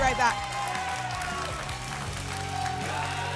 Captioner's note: applause and cheering